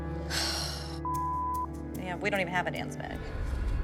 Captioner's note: sighs